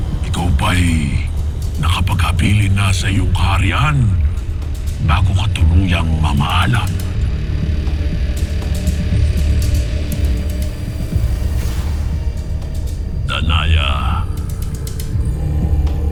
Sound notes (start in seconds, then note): 8.8 evil energy whoosh & crackle